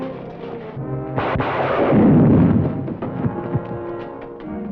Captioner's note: gunshots